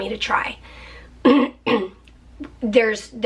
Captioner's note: clearing throat